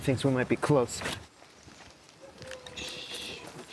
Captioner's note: distant dog barking